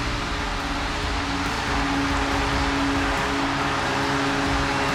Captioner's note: crowd cheering wildly